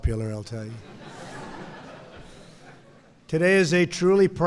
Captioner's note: laughter